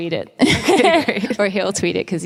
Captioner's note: laughing